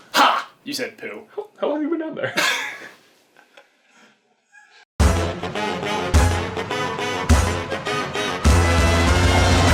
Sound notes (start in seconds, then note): 2.4 chuckle; 5.0 theme music